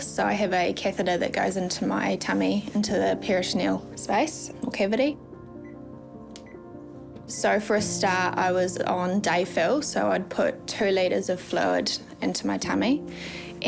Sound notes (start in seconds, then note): 5.6 pd machine beeps